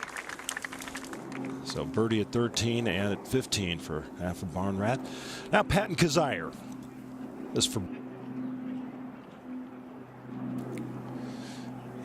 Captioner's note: applause